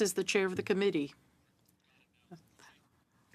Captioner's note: speaking French